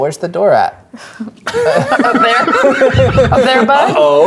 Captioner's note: players laughing